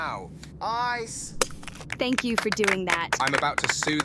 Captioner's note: passengers clapping